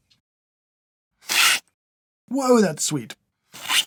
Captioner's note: slurp; slurp